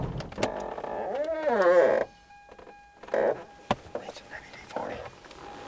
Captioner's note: car door creaks